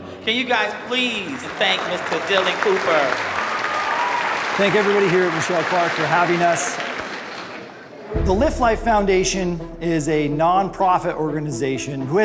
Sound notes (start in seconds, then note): 3.0 applause